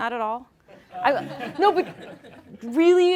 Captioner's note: laughing